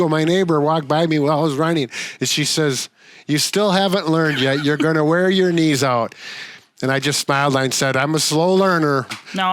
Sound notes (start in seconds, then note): 4.1 laughs